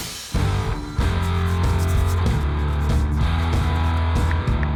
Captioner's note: upbeat rock music; brush scratching